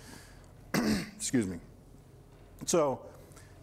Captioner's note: throat clearing